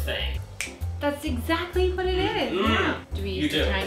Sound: snaps

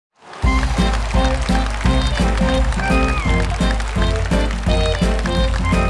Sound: audience applauding; happy jazz music

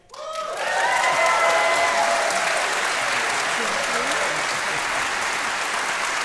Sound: crowd clapping; crowd cheering

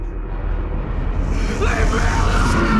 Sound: ghostly screeching

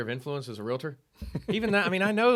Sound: laughing

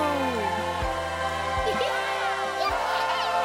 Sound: giggling

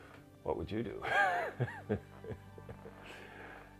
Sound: laugh

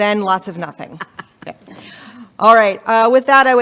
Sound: laughing

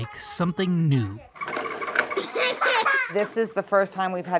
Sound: laugh

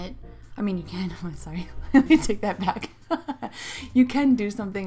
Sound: laughs

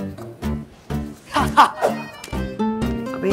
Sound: laughing

